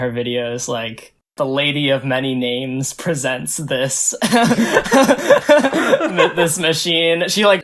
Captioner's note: both laugh